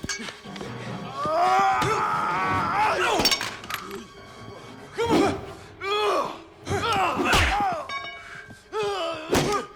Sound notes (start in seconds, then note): 1.0 Knox yelling; 3.4 Knox grunting; 7.2 tense music continues